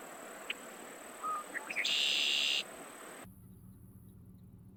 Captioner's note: bird trilling